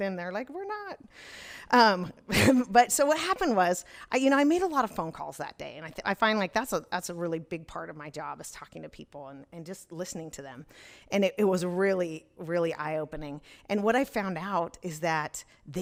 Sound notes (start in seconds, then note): 1.9 chuckles